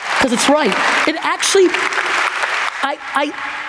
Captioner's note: audience applauds